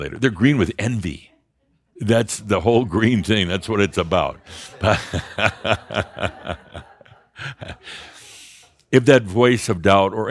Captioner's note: Adamus laughs